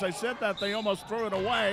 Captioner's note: referee whistling